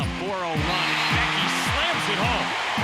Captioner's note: crowd cheering